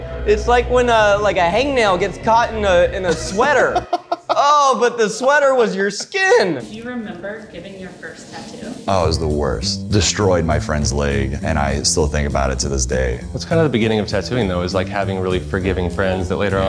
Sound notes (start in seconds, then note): 3.0 laughing